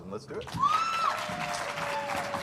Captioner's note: applause